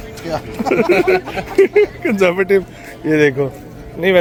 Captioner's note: laughing